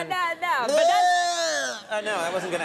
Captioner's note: Conan grunting